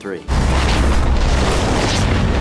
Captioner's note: lightning cracks; thunder